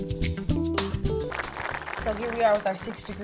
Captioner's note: audience applause